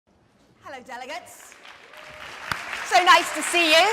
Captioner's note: audience applause